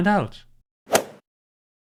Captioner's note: swoosh